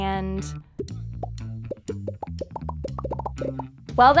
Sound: popping

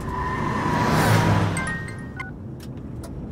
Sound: phone rings

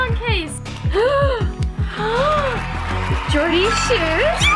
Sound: gasps

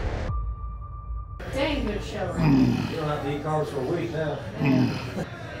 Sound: crowd

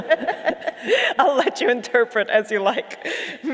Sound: all laugh

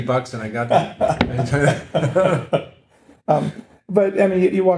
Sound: laughing

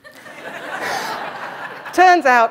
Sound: laughter

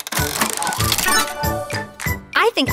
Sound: mechanical whirring

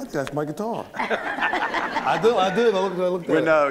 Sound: laughter

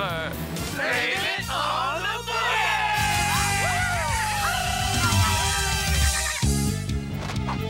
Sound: they cheer and shout

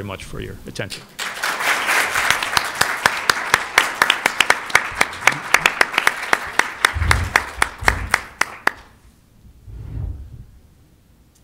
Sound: applause

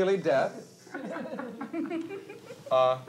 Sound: actors laughing

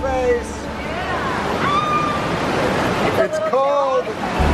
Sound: exclaims

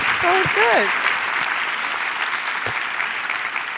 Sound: cheers and applause

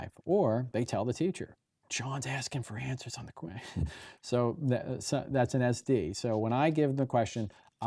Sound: chuckling

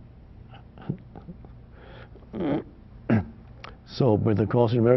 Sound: Eckhart chuckling

